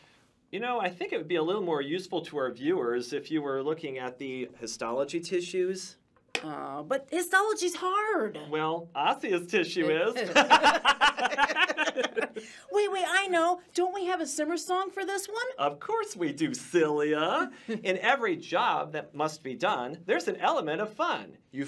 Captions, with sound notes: You know, I think it would be a little more useful to our viewers if you were looking at the histology tissues. Oh, but histology's hard. Well, osseous tissue is! [Both laugh.] Wait, wait, I know! Don't we have a Simersong for this one? Of course we do, "cilia." In every job that must be done, there's an element of fun.